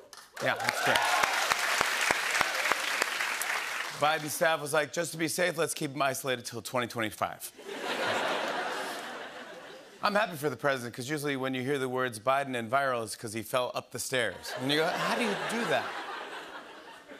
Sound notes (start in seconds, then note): 0.1 cheers and applause; 7.6 laughter